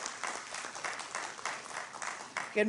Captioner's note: applause